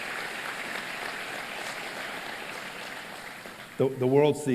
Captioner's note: applause